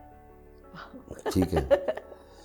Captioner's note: giggles